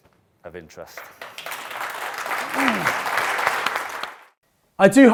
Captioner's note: audience applauds